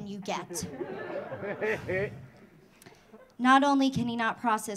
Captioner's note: audience laughing